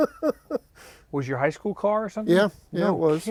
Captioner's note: laughing